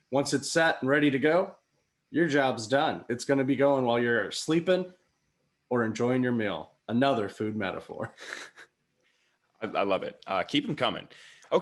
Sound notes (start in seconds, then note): 7.9 chuckles